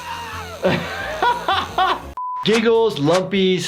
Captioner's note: Lumpy screaming; laughing